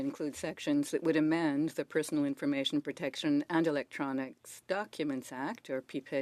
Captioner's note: speaking French